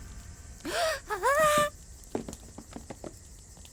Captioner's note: sighs